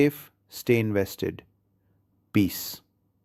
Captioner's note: pause